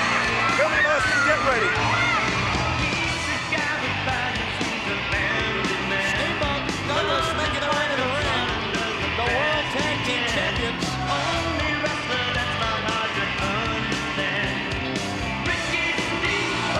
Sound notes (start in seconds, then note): 3.2 crowd cheering; 3.2 lively music continues; 11.6 crowd cheering; 11.6 lively music continues